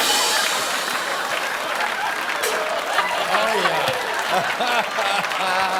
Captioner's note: cymbals clash; laughter and applause; laughs